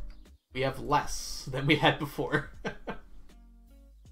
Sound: laughs

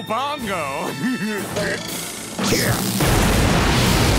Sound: grunting

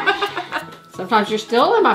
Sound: laughing

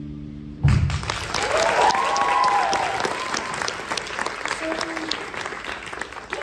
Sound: applause

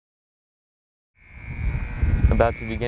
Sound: buzzer ringing

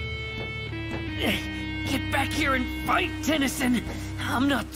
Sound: Kevin grunts

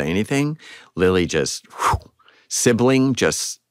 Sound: imitates whooshing

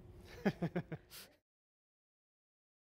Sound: laughs

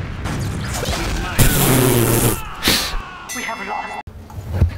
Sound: noise indicating humour

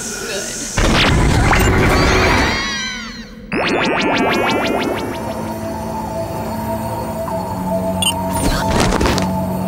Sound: screams

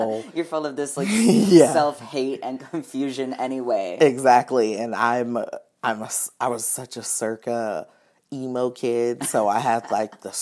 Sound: laughing

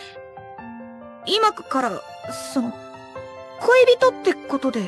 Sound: taking a deep breath

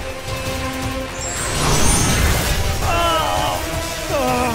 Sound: zaps

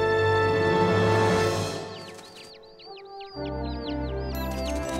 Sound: birds chirping

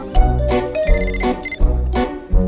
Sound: phone ringing

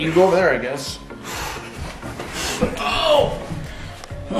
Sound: breathes heavily

